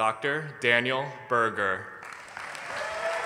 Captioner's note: applause